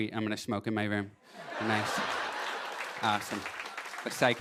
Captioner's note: laughter